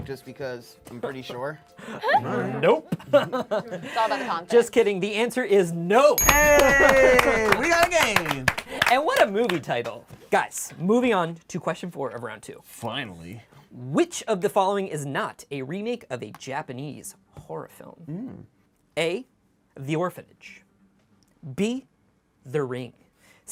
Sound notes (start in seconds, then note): 3.3 laughs; 6.2 cheers